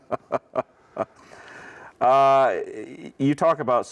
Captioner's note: chuckling